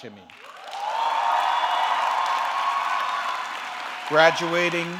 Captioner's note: audience cheering